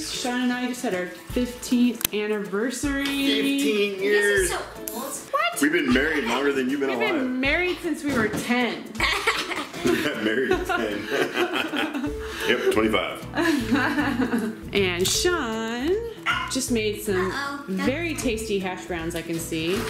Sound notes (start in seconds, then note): 9.0 laughs